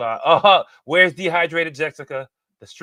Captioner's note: chuckles